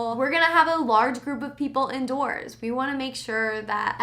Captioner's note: none